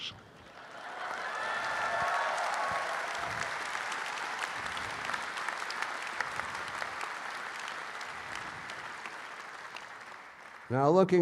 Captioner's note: audience applauds and claps